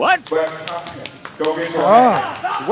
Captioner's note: claps